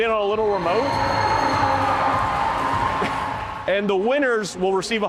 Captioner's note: crowd cheering